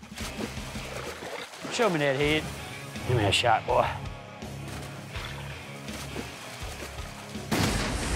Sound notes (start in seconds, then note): 4.4 splashingng; 7.5 gununshot